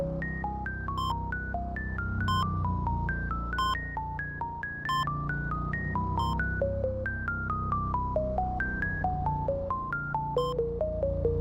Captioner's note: heart monitor beeps